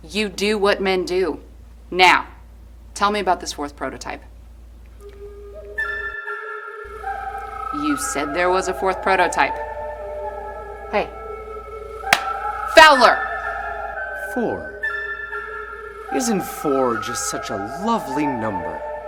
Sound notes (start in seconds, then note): 5.1 solemn music; 12.1 hands clap